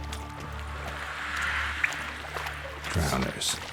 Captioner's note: faint hissing